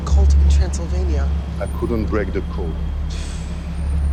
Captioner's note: sighs